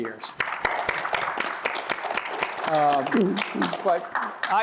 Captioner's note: applause